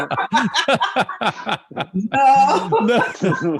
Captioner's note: laughter